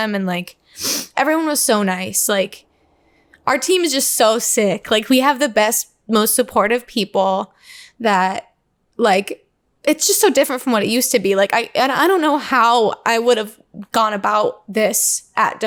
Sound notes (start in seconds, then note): none